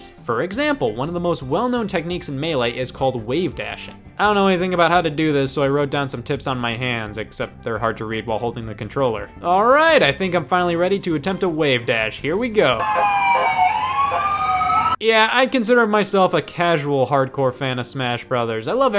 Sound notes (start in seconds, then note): 12.7 siren blaring